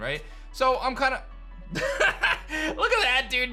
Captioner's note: laughs